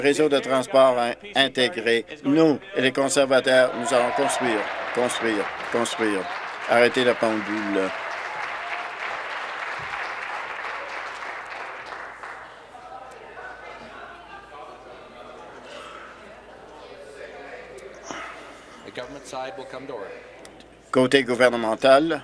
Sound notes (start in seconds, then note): 6.9 applause